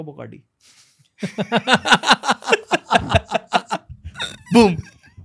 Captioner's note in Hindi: हँसना